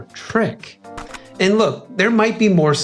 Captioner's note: pop